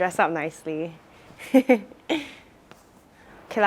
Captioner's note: laughs